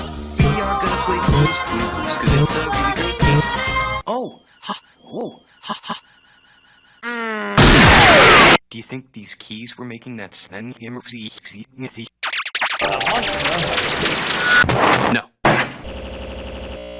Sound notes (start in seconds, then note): 2.2 beatboxing punches in on every downbeat; 5.8 door creak reversing; 7.6 explosion; 12.2 heavily vibrato'd sfx; 14.6 explosion